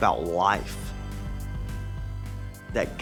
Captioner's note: none